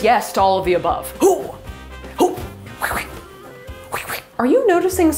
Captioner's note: whipping noises